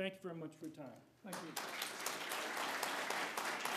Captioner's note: applause